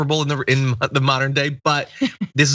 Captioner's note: laugh